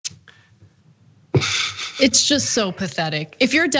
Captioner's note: laugh